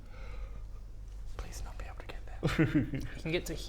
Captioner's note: Baradun, whispers